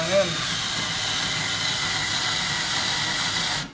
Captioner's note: drill whirring